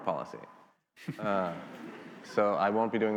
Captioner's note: attendees laughing